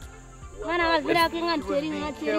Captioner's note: Mursi spoken